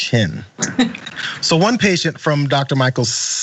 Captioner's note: laugh